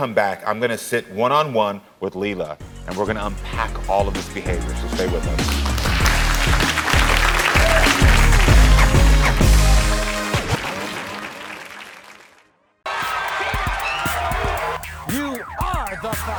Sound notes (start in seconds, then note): 4.8 crowd applauding; 6.0 upbeat music